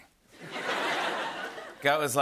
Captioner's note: laughter